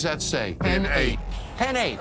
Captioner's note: in Unison